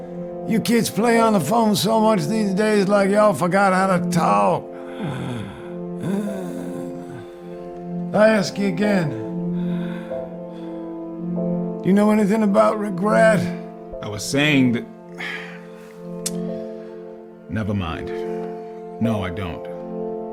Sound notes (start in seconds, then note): 4.7 breathes audibly